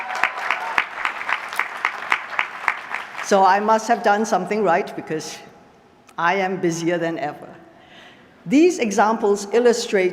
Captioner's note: applause